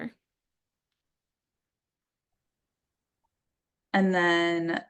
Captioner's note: silence